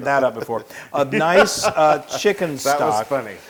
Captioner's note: laugh